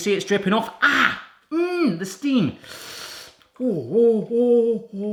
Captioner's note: groans